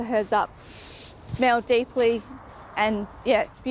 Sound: inhales deeply

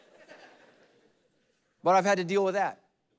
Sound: congregation laughing

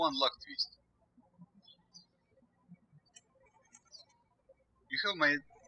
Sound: birds chirping

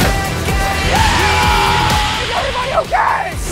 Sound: screaming

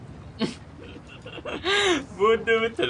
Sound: laughs

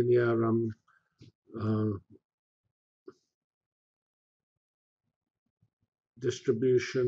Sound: pause

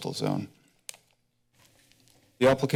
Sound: clicking sound

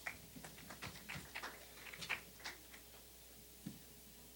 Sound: scattered applause

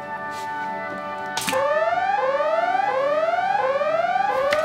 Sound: alarm blaring

